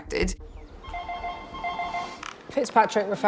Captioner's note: phone ringing